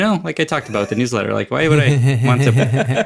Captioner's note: laugh